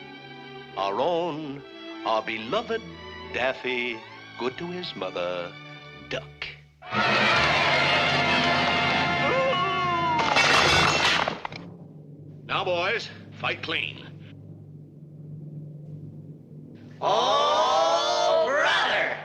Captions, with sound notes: our own, our beloved Daffy "Good to His Mother" Duck. (crowd cheering) - Boo! (objects clattering) - Now boys, fight clean. - [Crowd] Oh brother!